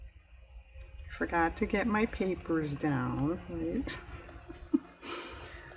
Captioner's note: laughs